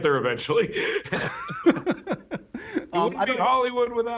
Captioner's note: laughter